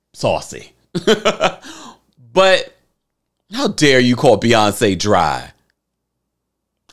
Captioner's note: laughs